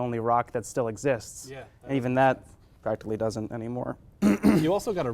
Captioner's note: clears throat